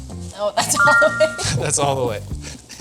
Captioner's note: text chiming brightly; laughing